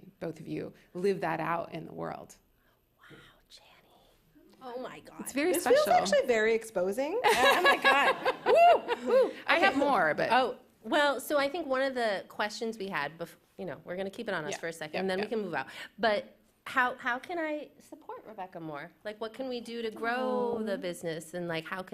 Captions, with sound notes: Both of you live that out in the world. -[whispering] Wow, Chani. Oh my gosh. -It's very special. -This feels actually very exposing. [laughter] -Oh my God. Wooh, wooh. -I have more, but-- -Oh, well, so I think one of the questions we had bef-- you know, we're gonna keep it on us- -Yeah. --for a second and then we can move out. But how-how can I support Rebecca more? Like what can we do to grow the business and like,